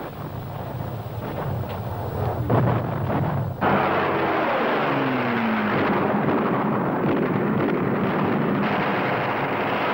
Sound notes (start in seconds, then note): 0.1 explosions booming; 3.7 plane engine roaring